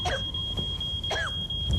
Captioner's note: gasps, smoke detector beeping; coughing